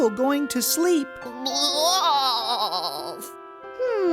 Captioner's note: bleating in agreement